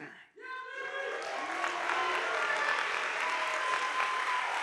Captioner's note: audience applauding